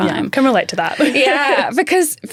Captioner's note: laughs